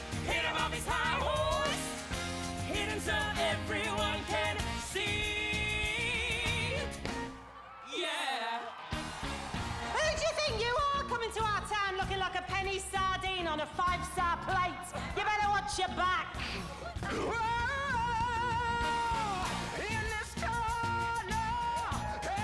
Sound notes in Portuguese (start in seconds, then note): 9.0 audience cheering